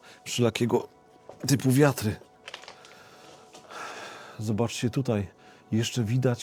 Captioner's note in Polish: westchnienie